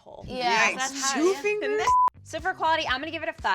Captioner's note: beep